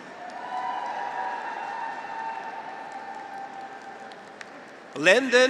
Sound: graduates cheer; audience applauds

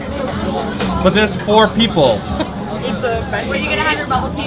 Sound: laughs

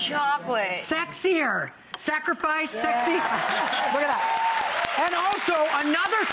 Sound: audience cheering

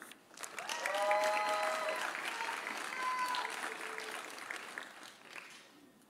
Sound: audience applauding; audience cheering

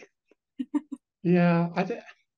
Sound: laughs

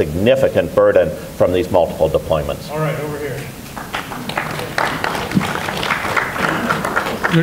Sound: applause

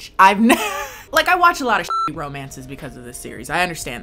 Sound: laughs; beep

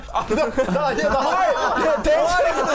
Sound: laughs

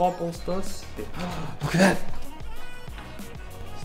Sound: gasps

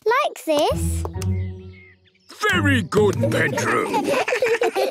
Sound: children giggle

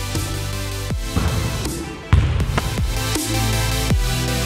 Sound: upbeat music; ball thudding; upbeat music continues

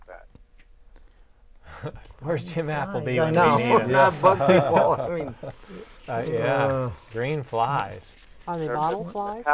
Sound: laughing

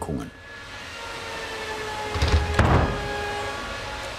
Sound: high whirring sound

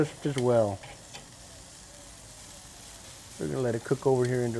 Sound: meat sizzling

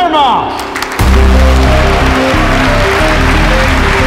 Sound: all clapping

